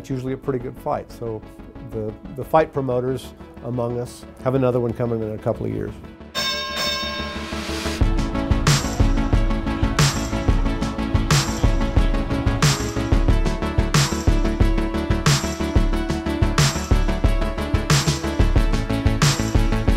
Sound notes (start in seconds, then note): 6.3 ding! ding!